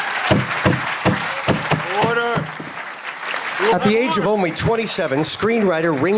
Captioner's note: applause